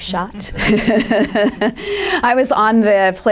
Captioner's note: laughter